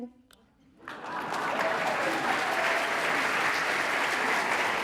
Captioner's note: audience applauding